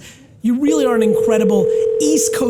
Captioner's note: phone rings